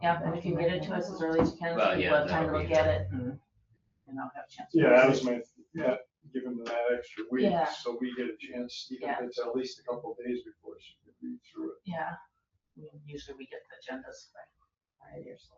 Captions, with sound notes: And get it as early as you- (overlapping chatter) Even it's at least a couple days before she can read through Yeah, usually we get the agenda. Alright.